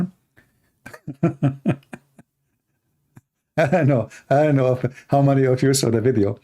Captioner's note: Ketawa